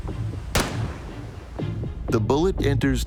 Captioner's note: gun banging